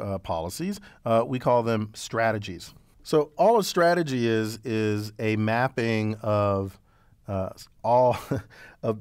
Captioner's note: laugh